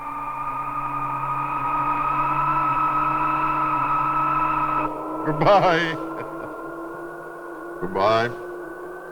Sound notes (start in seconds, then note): 5.2 chuckling